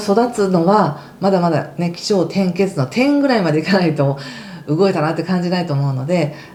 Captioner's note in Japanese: 息をのむ音